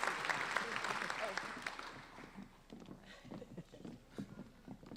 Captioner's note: applauding